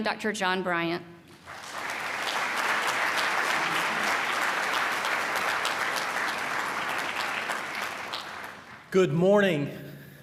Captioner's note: applause